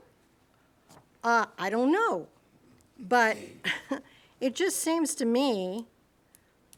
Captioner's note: laughs